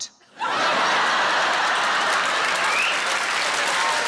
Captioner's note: audience laughs